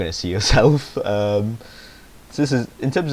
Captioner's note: he snickers